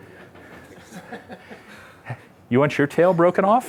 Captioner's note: laughter